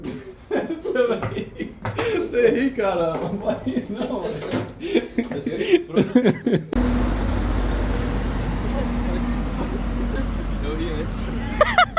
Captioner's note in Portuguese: risadas; risadas; risadas